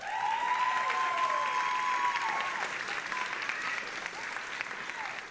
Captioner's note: audience applauding and cheering